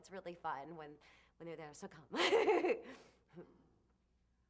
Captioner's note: laughs